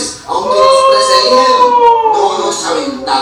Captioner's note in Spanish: Aullidos